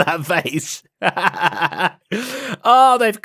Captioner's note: laughs